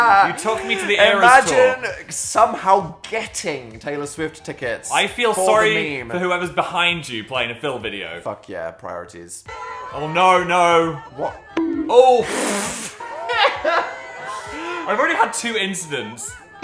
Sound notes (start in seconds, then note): 0.0 Dan and Phil laughing; 12.4 Dan guffaws; 13.2 Dan laughing